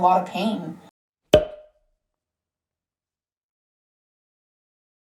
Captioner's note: pop sound